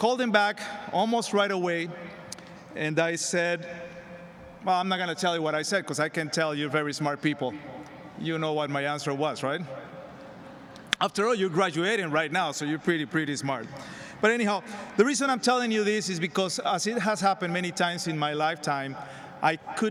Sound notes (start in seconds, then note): none